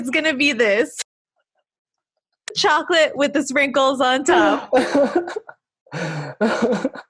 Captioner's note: laughing